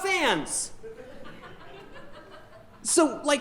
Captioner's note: audience chuckling